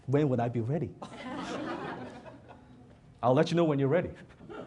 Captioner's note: audience laughs